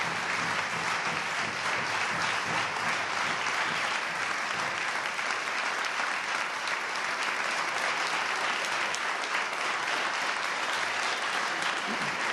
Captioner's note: applause